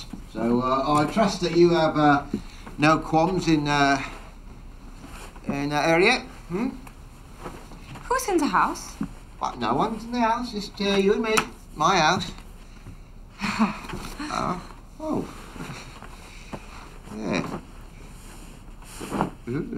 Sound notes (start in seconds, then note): 15.6 chuckles